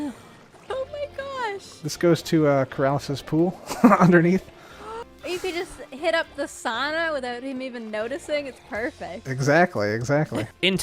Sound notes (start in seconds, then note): 3.6 chuckles; 4.5 gasps